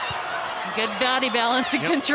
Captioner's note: ball thumping